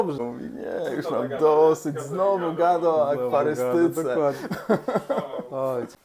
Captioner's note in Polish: śmiech